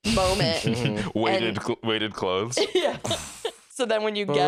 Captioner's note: laughing